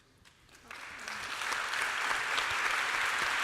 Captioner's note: applause